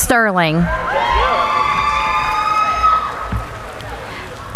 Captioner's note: cheering